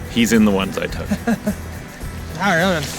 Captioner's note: laughing